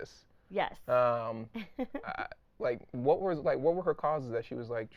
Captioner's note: laughing